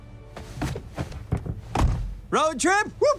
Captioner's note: door thudding